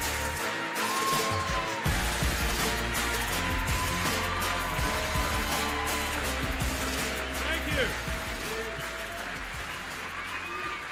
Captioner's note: applause